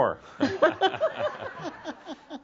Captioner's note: more chuckles